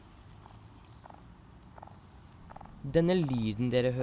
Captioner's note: croaking